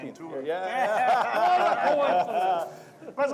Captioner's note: laughter